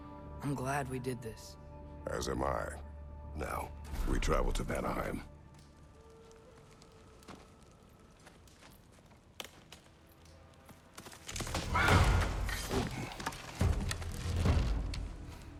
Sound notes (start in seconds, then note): 11.1 rustling; 11.6 grunt